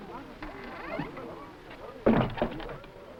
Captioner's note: door creaking